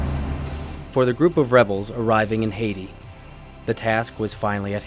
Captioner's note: voiceover